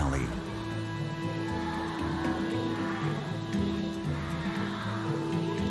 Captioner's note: children's voices echoing